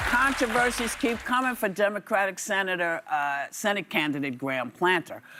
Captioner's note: applause